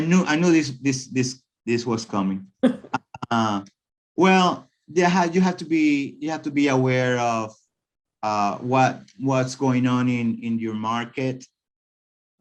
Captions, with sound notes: - I knew this was coming. (both chuckling) Well, you have to be aware of what's going on in your market, right?